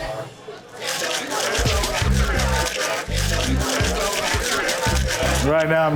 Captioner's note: chatter